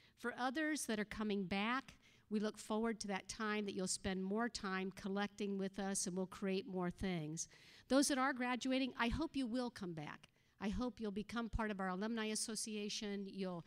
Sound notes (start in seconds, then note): none